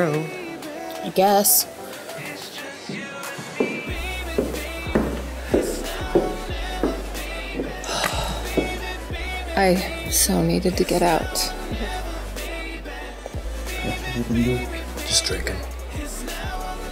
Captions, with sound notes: - I guess. - [sighs] I so needed to get out. [whispering] - Just drinking.